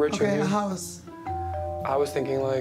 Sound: doorbell rings

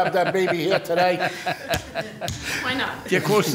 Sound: laughing

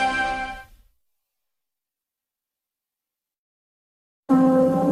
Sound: silence

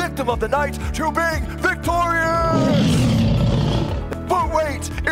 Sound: lion's roar

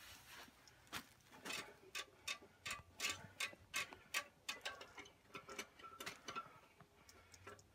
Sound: rattling of fuel control knob

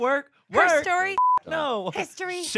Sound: beep

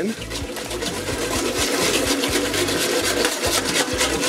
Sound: scraping pan

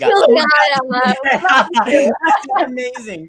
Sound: laughing

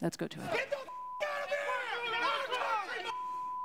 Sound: beep

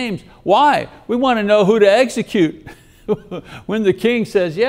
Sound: laughs

